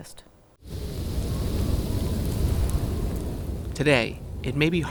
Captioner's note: wind blowing